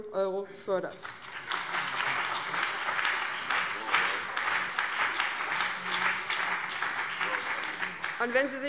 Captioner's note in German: Beifall BÜNDNIS 90/DIE GRÜNEN und CDU